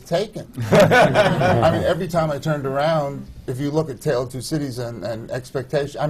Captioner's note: laughter